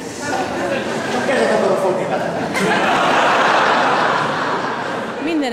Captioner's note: laughter